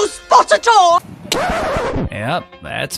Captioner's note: disk scratch